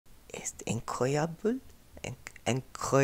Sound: speaking French badly

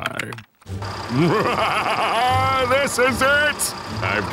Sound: laughing maniacally

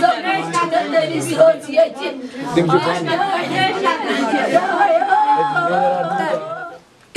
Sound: women wailing

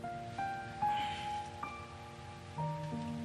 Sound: melancholic music playing; sighs

